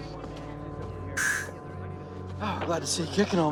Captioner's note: inhales sharply